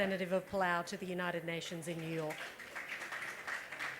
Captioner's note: applause